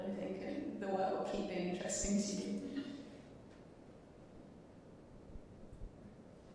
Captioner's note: chuckling